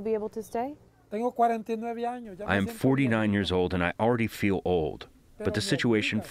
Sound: through translator

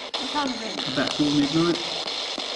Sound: pat

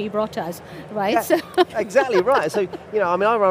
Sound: laughs

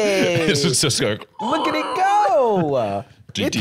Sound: screeching

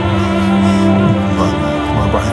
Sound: stammering

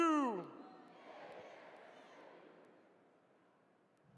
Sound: audience responds

